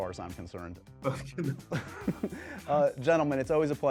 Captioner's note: chuckles